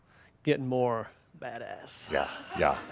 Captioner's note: some laughter